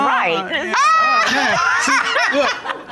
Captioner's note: Judge Dana laughs